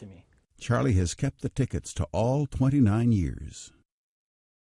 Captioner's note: voiceover